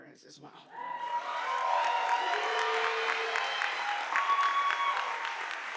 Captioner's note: audience applauding